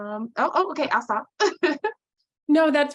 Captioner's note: chuckles